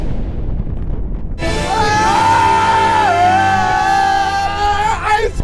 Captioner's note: group cheers; victorious music